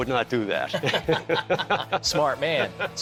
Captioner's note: both laughing